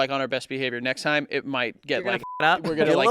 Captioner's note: beep